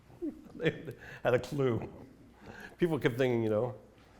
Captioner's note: laughs